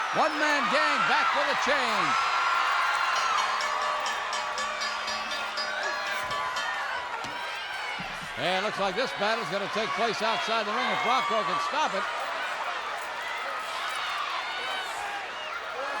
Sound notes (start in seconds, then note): 3.3 bell rings